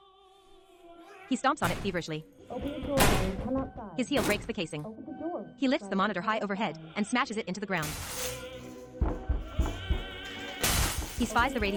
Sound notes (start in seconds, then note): 5.8 pounding on door